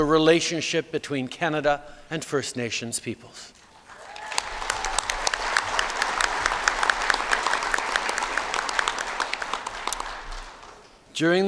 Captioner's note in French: Applaudissements